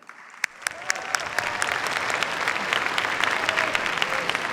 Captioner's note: cheers, applause